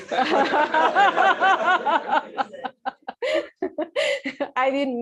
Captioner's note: laughter